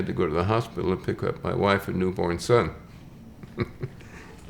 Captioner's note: chuckles